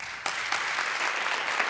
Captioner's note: applause